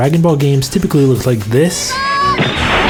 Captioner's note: Pan yelling; ki blast sound